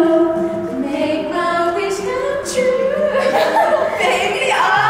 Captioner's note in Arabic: كلاهما يضحكان